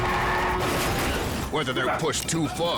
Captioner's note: car crashing